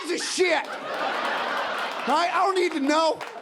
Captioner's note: audience laughing